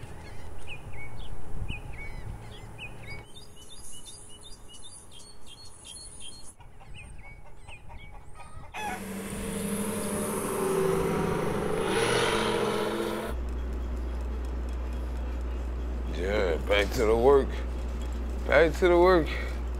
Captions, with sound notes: [birds chirping] [hens clucking] [cars running] Yeah back to the work, back to the work.